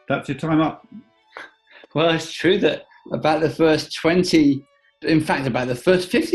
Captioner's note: chuckling